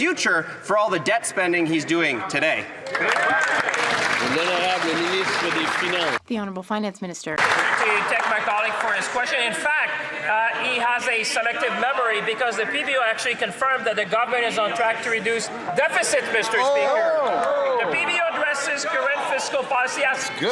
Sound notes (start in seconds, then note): 7.4 some Applause